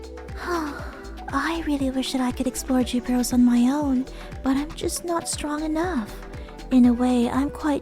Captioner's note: sigh